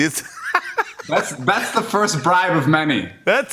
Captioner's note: laughter